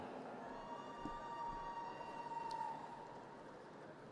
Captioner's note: audience cheers